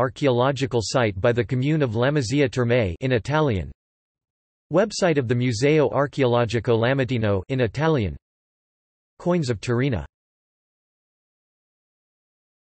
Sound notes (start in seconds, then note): 3.3 in Italian